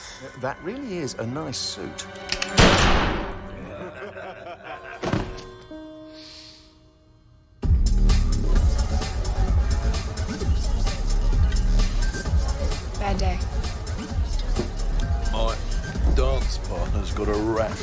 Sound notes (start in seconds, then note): 2.6 gunshot; 3.5 laughter